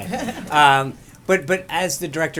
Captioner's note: laughter